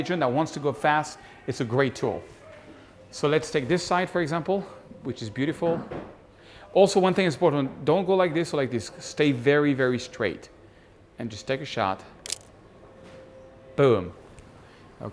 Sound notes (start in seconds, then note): 12.2 camera shutter clicks